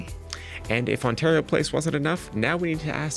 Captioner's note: none